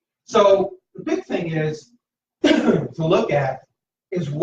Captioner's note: coughs